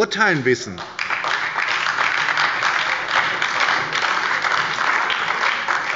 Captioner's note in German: Beifall bei der SPD